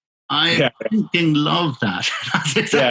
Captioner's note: laughing